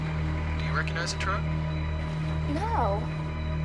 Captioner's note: on phone